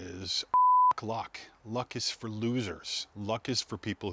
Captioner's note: beep